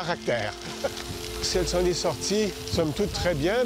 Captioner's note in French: rire